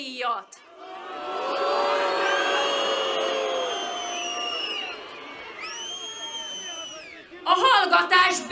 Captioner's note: whistling